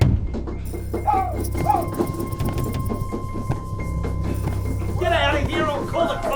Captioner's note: boy barking and tapping